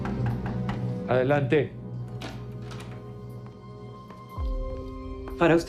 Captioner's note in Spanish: Toques en la puerta